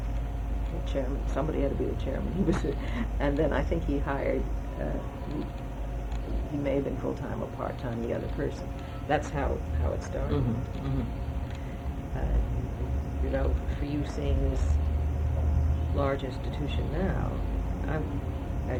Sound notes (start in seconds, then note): 2.1 laughs